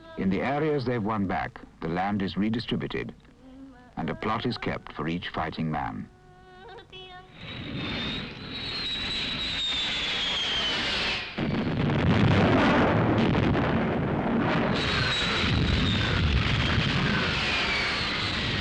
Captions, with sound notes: In the areas they've won back, the land is redistributed and a plot is kept for each fighting man. (planes whistling) (bombs crashing)